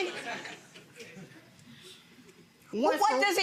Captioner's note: audience laughing